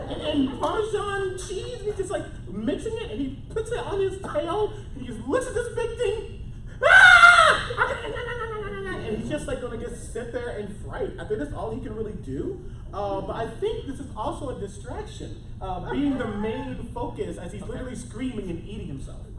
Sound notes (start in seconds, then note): 0.0 laughter; 6.8 screams